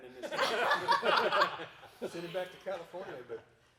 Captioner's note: everyone laughing